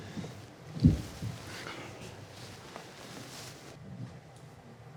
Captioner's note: footsteps clomping